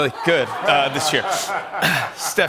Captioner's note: laughter